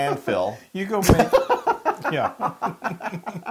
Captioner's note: laugh